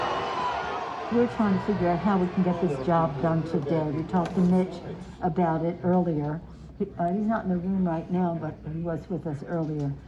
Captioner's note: sounds of the crowd